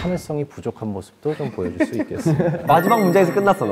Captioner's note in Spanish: Jajajajaja